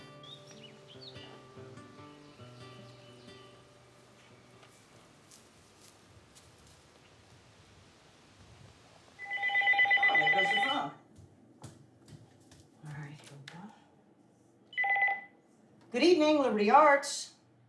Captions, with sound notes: (birds twittering) (phone ringing) - There goes the phone. All right, here we go. Good evening. Liberty Arts.